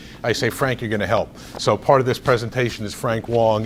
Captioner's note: rustles papers